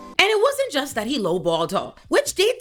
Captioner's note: none